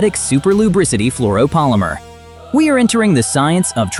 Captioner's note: sarcastic